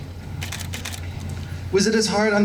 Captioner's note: camera shutters